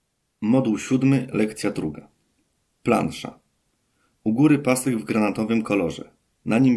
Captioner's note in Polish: Głos męski z offu, audiodeskrypcja planszy